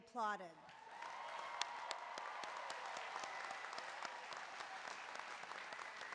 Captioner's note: applause